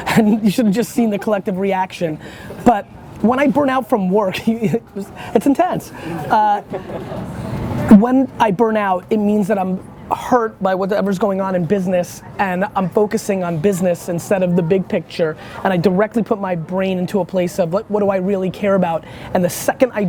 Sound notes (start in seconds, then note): 5.9 laughs